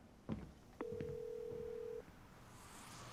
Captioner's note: phone ringing